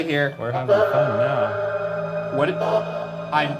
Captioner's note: device chatters